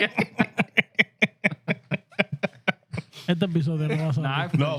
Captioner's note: laughter; speaking Spanish